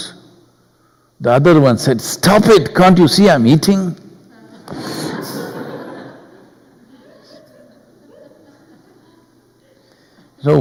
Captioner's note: laughter